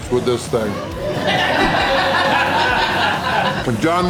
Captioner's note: crowd laughter